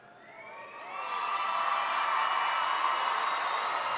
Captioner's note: audience cheering